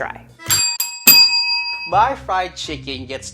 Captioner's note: bells dinging